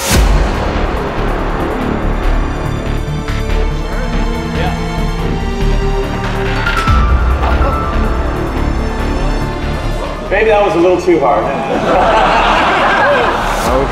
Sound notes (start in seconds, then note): 0.2 intense beats; 6.7 glass cracking; 7.6 crowd gasping; 11.4 crowd laughing